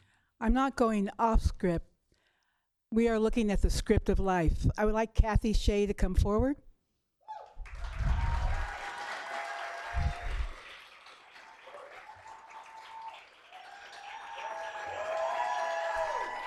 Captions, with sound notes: I'm not going off script. We are looking at the script of life. I would like Kathy Hsieh to come forward. [Applause]